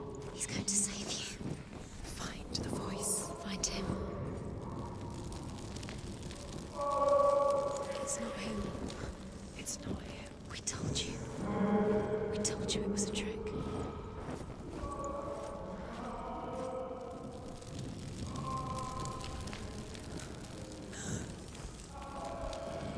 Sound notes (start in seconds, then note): 0.0 whispering; 6.3 muffled, echoing screams